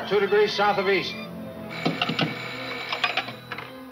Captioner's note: phone ringing